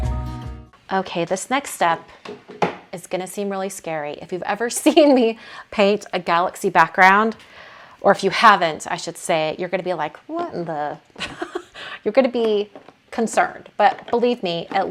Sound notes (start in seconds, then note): 11.2 laughing